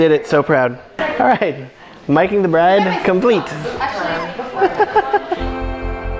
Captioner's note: laughing; soft music